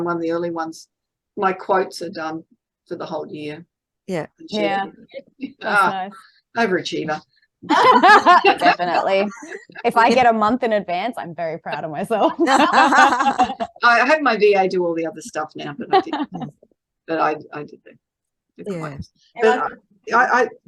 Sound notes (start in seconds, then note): 7.7 everyone is laughing; 12.2 everyone is laughing